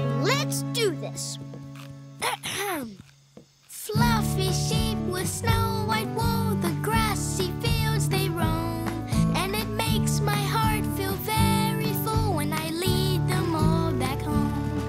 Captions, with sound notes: Let's do this. [CLEARS THROAT] (SINGING) Fluffy sheep with snow white wool. The grassy fields they roam. And it makes my heart feel very full when I lead them all back home.